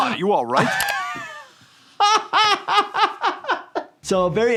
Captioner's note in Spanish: riendo